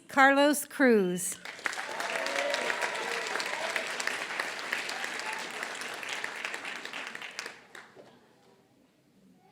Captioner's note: applause